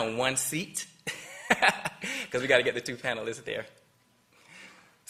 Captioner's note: laughter